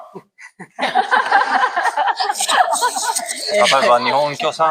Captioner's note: laughters